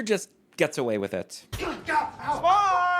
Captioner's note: whack